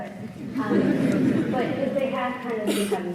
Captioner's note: audience laughing